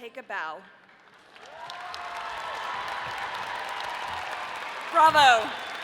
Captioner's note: audience applauding